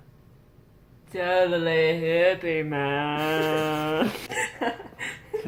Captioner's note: laughs